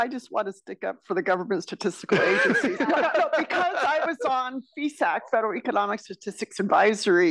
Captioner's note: laugh